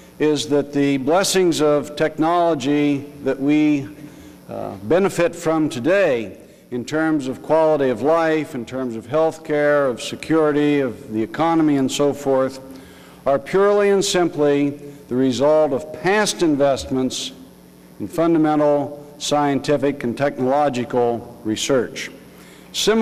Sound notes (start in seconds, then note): none